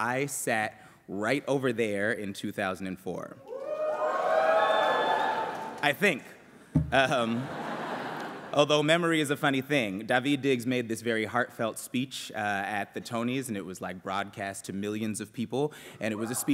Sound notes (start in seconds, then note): 3.4 cheering; 7.2 laughter